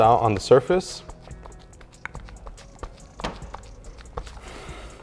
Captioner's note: pad scrunching